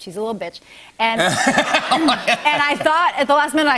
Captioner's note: laughter